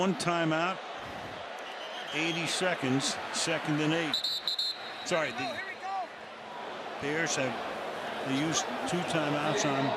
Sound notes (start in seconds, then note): 4.1 whistle blows